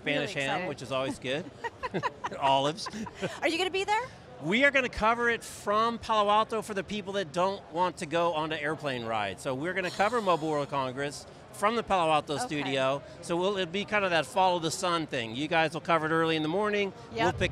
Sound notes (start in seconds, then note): 1.0 laughs